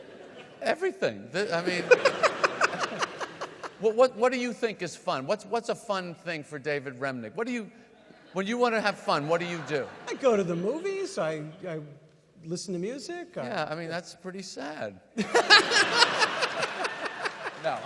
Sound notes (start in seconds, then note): 1.4 audience laugh; 15.2 audience laugh